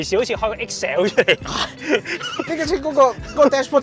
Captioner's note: laughs